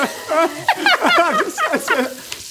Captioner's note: laughing